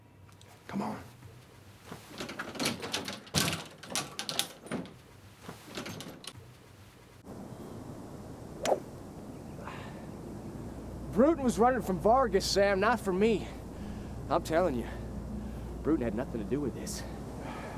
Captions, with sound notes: - Come on. (door clatters open) (air whooshing) (ball clacks) (Addison softly grunts) - Bruton was running from Vargas, Sam, not from me. I'm telling you, Bruton had nothin' to do with this.